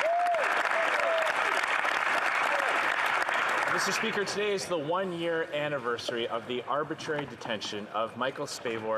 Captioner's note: some Applause